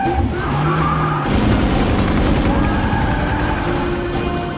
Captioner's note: helicopter whirring